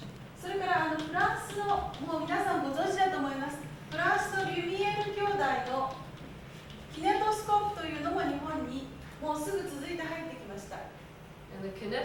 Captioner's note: speaking Japanes